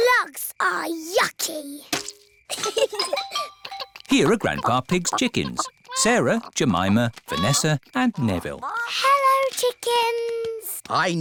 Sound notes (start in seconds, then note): 2.5 both giggle